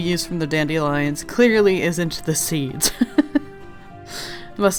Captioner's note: laughs